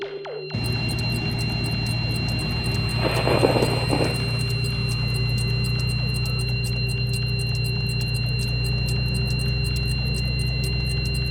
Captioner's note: swing of the flag; vibrations of the device operation; clock ticking; quad bike engine noise; squeak of the portal; diesel engine humming